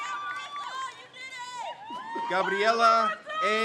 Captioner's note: crowd; crowd cheers